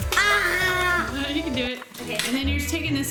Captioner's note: shouts